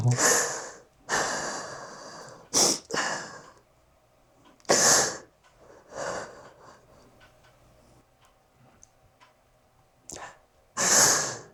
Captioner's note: sobbing